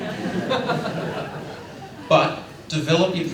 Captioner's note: laughter